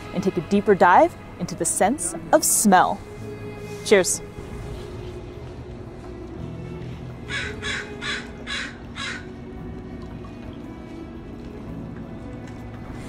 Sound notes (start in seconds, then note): 4.9 background music; 7.2 crow vocalizing in background; 7.3 background music